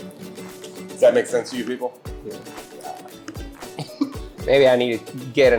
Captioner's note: laughs